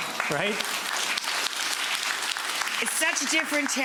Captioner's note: audience clapping